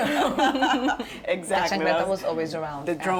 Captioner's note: laughs; laughter